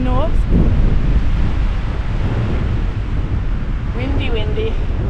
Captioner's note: wind